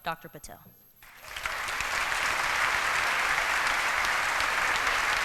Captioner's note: applause